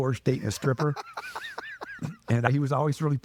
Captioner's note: laughing